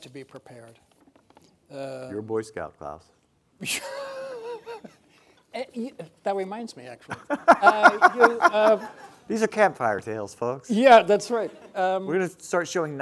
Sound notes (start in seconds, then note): 4.1 laughing